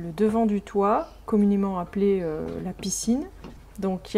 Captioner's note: in french